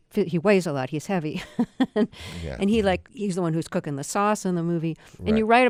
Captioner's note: laughter